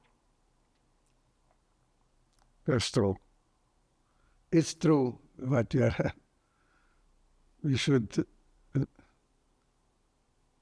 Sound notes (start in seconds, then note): 5.8 laughing